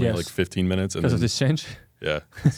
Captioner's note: laughs